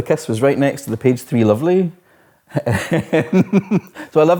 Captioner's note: laughs